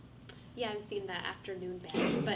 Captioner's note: faintly speaking